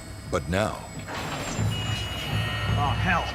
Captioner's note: rattling